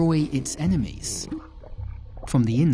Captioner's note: water sloshing